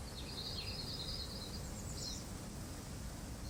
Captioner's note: birds singing